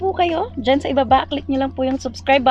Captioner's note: none